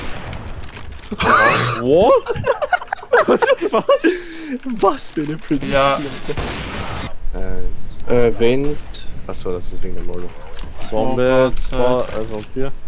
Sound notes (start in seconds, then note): 1.1 laugh; 1.2 big gasp; 4.1 laugh